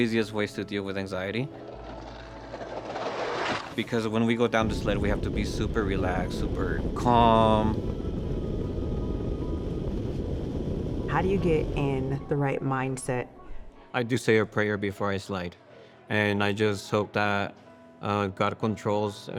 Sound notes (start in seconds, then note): 1.6 roce del trineo en el hielo